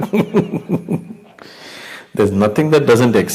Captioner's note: laughs